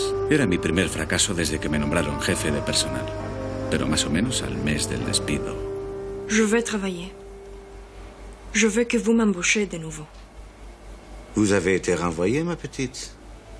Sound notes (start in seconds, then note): 6.6 they speak French